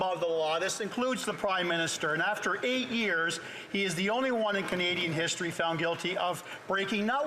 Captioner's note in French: voix de l'interprète